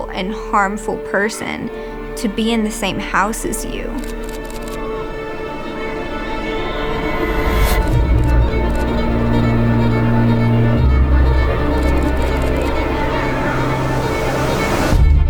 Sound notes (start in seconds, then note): 3.9 camera clicking; 4.6 tense expectant music